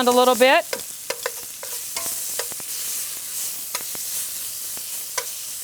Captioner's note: food in pan sizzling